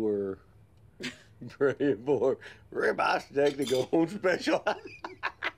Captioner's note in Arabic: يضحك